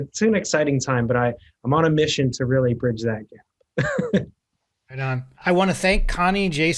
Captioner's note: chuckles